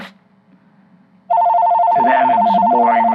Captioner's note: phone rings